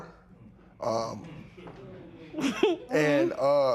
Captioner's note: light laughter